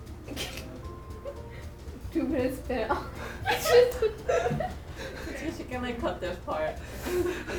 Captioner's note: giggles